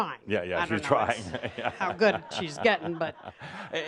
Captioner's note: chuckles and audience laughter